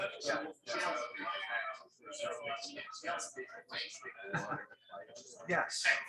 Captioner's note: people chattering indistinctly